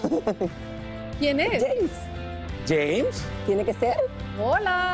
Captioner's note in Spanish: risas